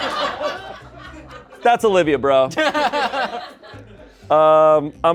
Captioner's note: crowd laughs; laughter